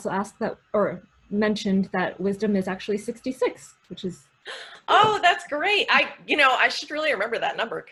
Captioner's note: gasp